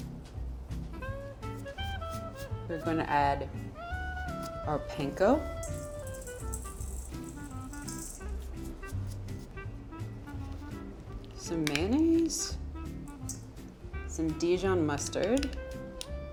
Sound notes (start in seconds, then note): 0.1 bright upbeat music continues; 5.6 breadcrumbs sprinkle